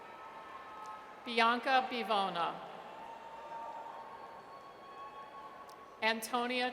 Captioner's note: audience cheers; audience cheers